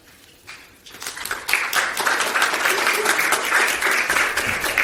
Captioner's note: applause